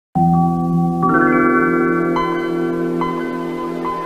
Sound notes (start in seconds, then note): 0.2 nostalgic computer startup sound